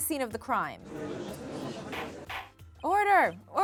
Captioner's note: crowd murmuring